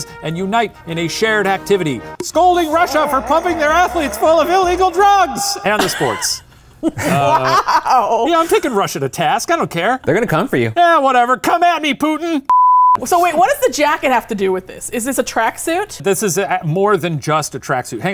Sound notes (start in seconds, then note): 6.8 laughing; 12.5 beeping